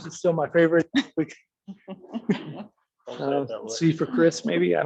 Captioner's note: laughing